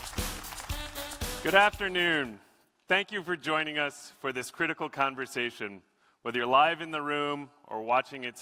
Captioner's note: applause